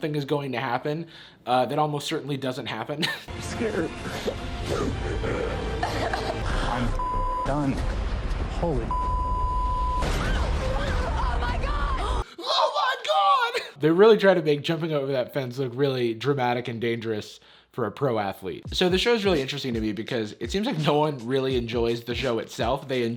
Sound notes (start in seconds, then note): 10.0 screaming